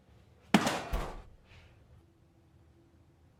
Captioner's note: crash